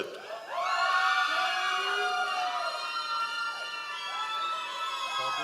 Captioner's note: members of the audience cheering